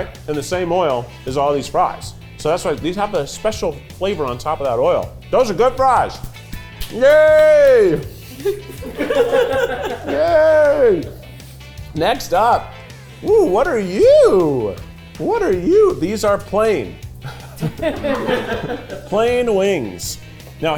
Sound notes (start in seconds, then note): 8.9 cast laughing; 17.2 cast laughing